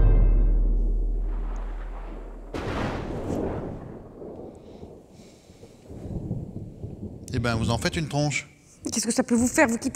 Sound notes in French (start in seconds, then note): 0.6 Coups de tonnerre